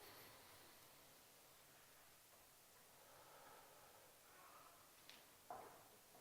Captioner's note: sound of breathing in an out